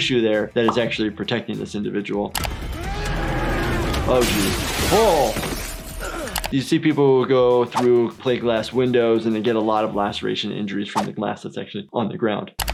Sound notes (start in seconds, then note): 2.4 man yelling